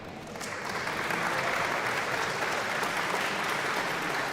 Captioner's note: audience applauding